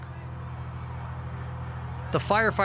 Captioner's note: siren sounds